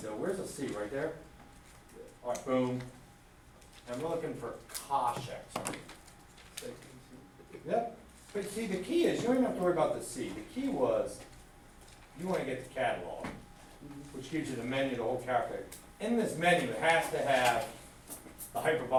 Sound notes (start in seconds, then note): 6.8 student speaks faintly